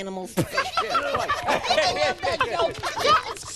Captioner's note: laughing